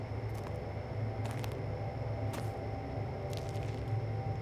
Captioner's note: gravel crunching